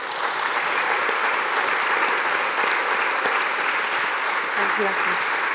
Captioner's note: audience applauding